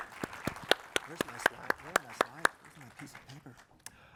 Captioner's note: applause